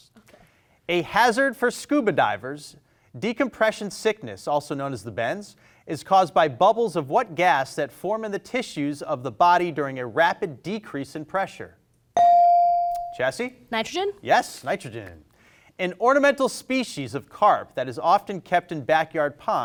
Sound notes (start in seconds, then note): 12.2 bell rings